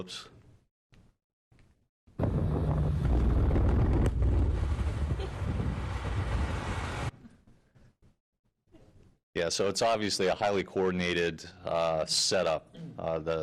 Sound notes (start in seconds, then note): 2.2 loud blast